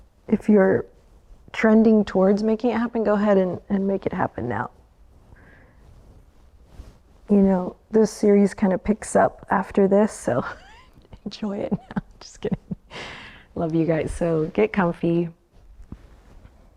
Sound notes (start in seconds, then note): 11.7 chuckles